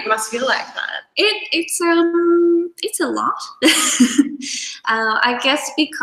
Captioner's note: chuckles